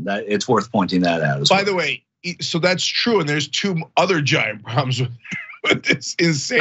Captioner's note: laugh